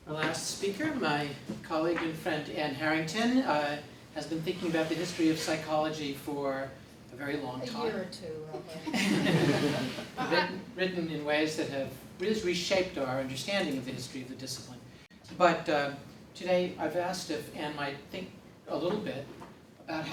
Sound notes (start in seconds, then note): 8.6 laughter